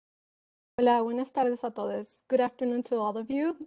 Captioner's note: foreign language